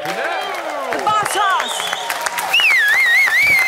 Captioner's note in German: Applaus